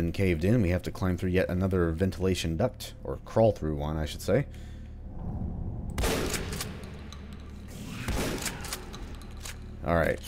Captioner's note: shotgun blasting